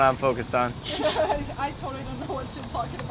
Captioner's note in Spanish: Risa incómoda